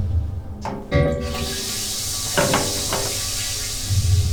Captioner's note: hissing